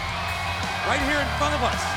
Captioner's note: crowd cheering